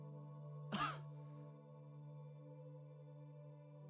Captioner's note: coughing